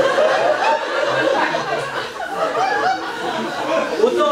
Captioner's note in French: rires public